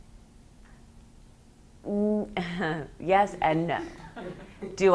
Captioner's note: laughs